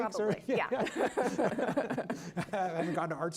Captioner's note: chuckling